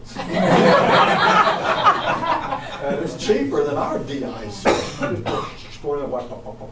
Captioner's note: audience breaks out in raucous laughter